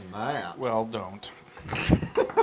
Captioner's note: laugh